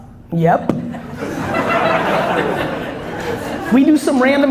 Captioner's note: audience laughs